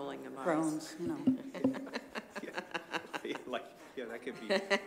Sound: laughter

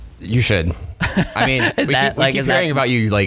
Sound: laughing

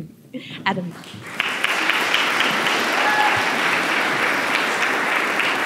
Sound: applause

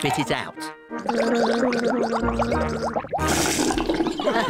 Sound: gargles

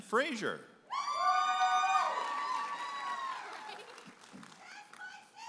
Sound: audience applauding and cheering

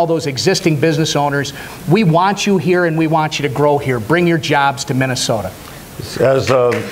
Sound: applause

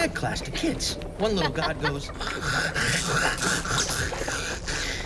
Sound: ack aaack

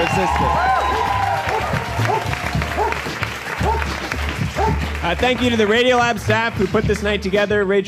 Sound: Macy barks

